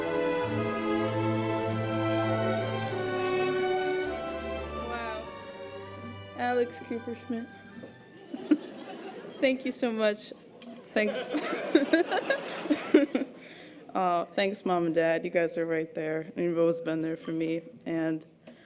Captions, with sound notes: - Wow. Alex Kupershmidt. Thank you so much. Thanks. (laughs) Thanks Mom and Dad, you guys are right there. You've always been there for me.